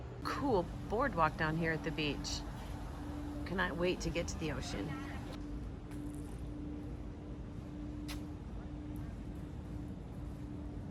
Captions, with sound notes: Cool boardwalk down here at the beach. Cannot wait to get to the ocean? (foot shuffling)